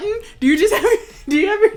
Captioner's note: chuckling